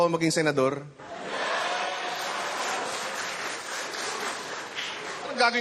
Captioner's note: laughter, applause